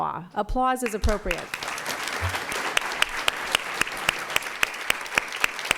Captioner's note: applause